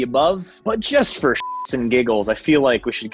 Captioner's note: beep